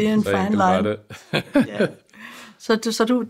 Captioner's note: laughs